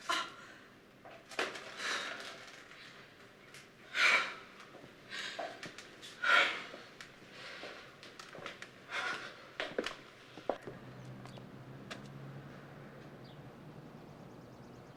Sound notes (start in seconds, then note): 3.9 exhaling; 6.1 hard breathing; 12.0 birds chirping